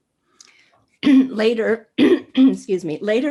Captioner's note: coughs